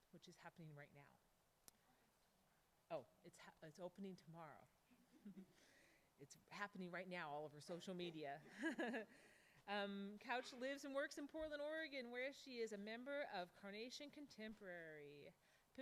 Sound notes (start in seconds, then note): 2.0 speaks faintly; 9.6 laughs